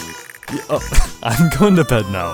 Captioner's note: cough